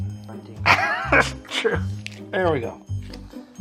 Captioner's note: laughing